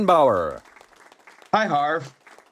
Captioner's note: audience clapping